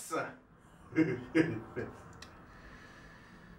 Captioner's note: chuckles